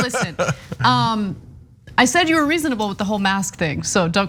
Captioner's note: laugh